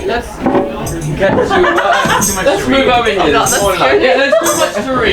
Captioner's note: people chattering